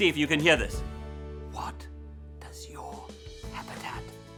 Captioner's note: whispers